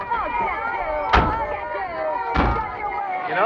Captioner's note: yelling